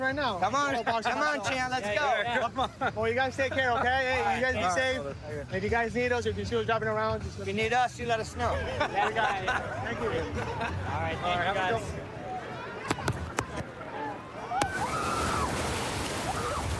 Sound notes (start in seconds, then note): 14.4 excited screaming